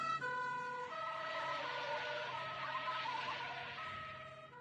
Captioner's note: tires Screeching; wailing Passes, Fades